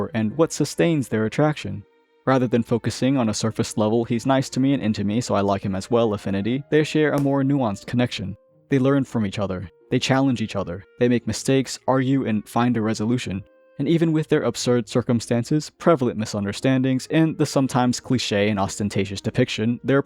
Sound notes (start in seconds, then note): 7.2 thwack